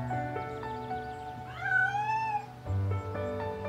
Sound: cat meowing

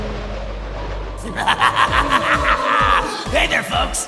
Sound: evil Ghost Laugh

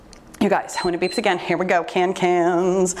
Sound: timer beeps

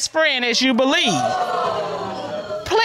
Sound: audience exclaiming

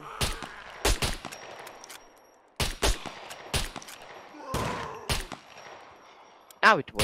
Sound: gunshots

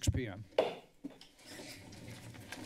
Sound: gavel tapped against the lectern

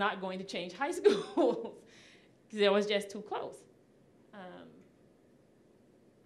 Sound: laughing

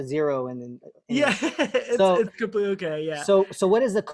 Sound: laughter

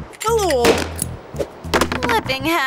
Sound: gunshot

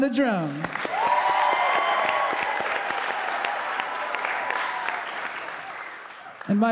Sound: audience applauding; audience cheering

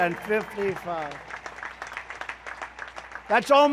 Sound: applause

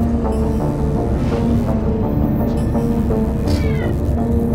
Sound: electrical buzzing

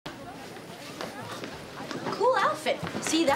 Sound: students chattering

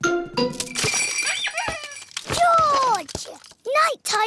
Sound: bells ring and toys squeak

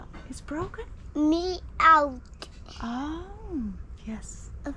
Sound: speaking foreign language

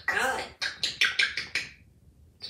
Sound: lip smacking sounds

